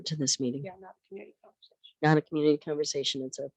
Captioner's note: some others agree